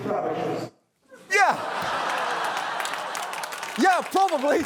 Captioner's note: laughter